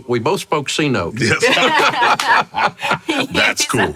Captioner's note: laughing